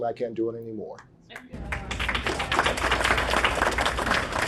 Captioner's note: clapping